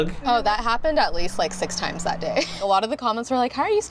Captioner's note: laughs